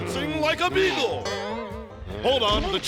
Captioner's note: boing